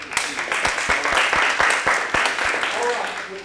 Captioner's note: applause